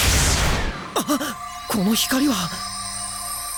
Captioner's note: gasp